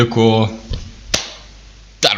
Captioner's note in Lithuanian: pliaukšt